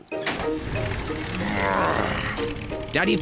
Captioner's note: engine starts